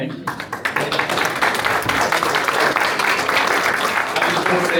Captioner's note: applause